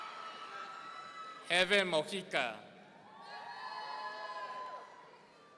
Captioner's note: audience cheering; audience cheering